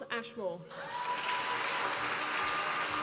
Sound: applause

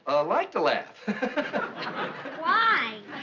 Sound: laughing

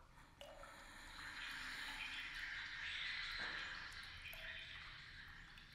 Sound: ghostly whispering

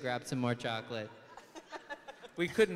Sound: laughs; other laughing

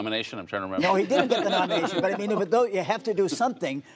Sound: laughter

